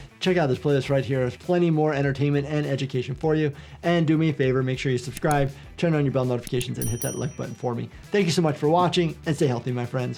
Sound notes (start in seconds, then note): 6.6 bell chimes